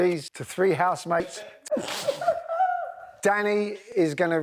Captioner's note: housemates laugh